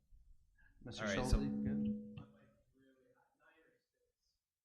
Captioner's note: feedback echoing